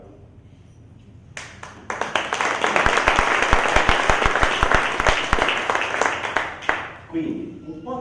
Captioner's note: applause